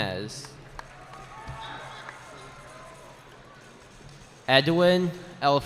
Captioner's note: cheering